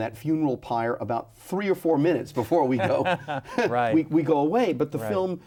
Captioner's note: both laughing